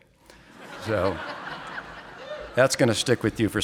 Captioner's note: audience laughing